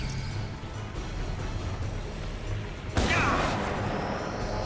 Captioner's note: dramatic music; gun firing